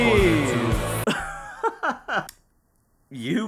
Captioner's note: laughing